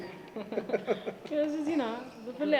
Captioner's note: laughs